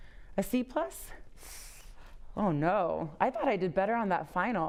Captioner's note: inhales sharply